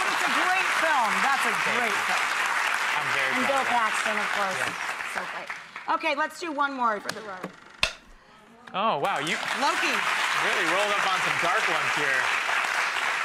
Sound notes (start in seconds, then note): 0.0 applause; 7.1 click